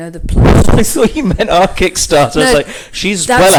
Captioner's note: laughs